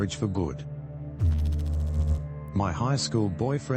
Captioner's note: electrical noise